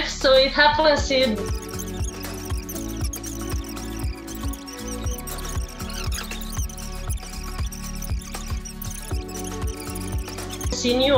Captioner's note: chattering